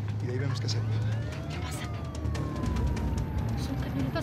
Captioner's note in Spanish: sirena de policía